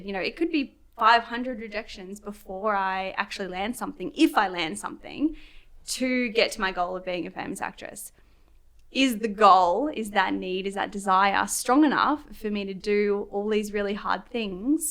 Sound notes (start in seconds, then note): none